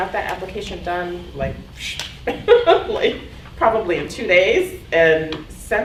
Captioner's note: clapping